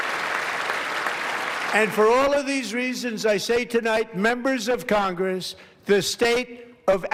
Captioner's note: applause